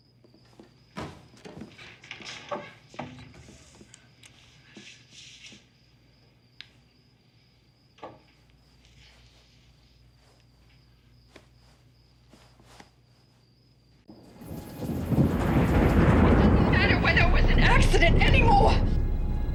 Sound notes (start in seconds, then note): 14.2 thunder